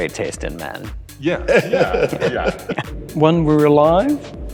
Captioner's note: laughing